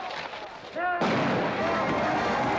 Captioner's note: blank gun firing; band playing & crowd cheering